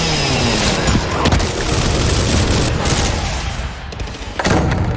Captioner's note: chainsaw whirring; gun booming